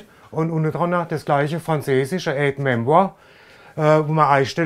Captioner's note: he says something in French